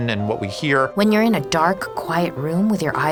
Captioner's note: voiceover